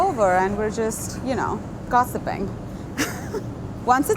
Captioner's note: chuckles